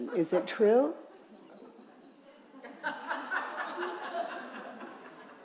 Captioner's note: audience chuckling